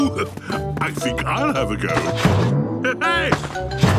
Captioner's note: laughs